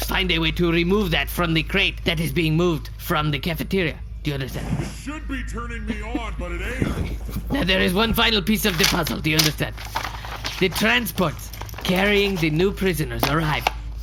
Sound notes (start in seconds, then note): 6.0 bed continues creaking; 8.4 shuffling paper, scribbling